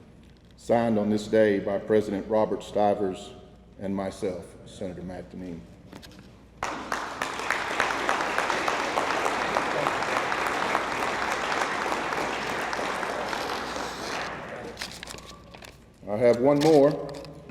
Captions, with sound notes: Signed on this day by President Robert Stivers, and myself, Senator Matt Deneen. (attendees applauding) I have one more.